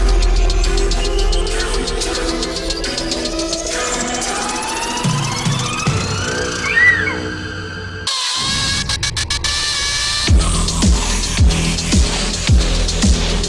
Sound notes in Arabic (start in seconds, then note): 6.3 يصرخ الشيطان